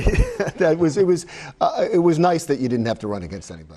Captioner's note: laughing